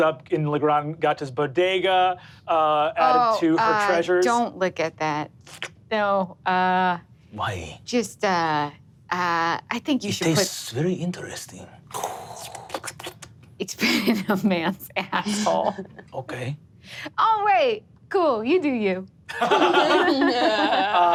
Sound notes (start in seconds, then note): 6.0 slurps; 12.0 slurps